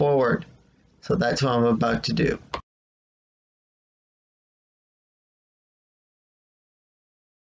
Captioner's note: click